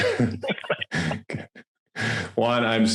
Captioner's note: both laugh